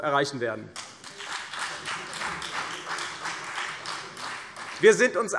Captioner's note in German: Beifall CDU